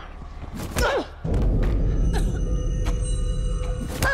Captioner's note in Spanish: Quejido